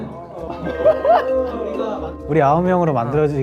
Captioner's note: mysterious laughter